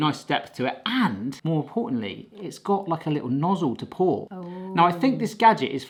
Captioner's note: clears throat